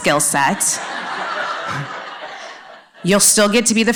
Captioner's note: laughter